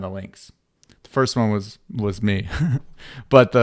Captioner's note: laughs